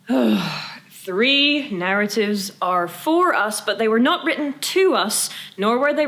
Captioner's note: sigh